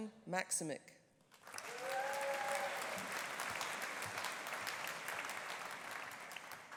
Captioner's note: audience applauding; audience cheering